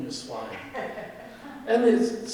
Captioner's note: audience laughing